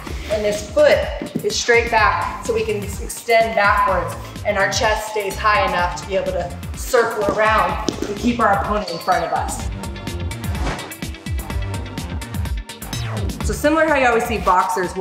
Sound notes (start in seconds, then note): 10.4 swoosh